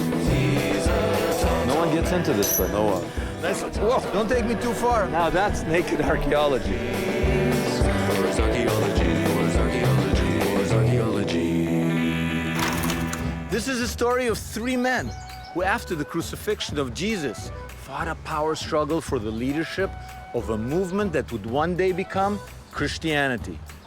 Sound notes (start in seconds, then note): 12.6 tape rolling; 15.0 upbeat music